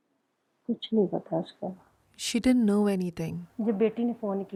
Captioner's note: speaking alternate language